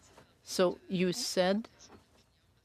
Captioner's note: speaking French